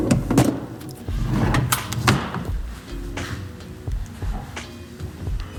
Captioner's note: drawer scraping